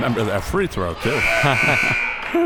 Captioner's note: both laughs; buzzer